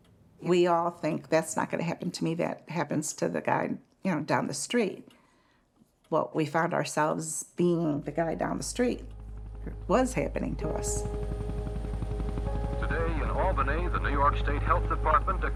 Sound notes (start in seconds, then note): 10.8 helicopter whirring